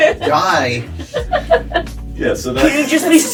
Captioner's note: laughs